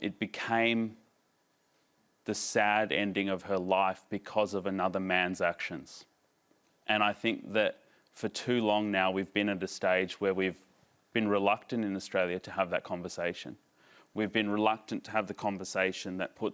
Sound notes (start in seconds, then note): none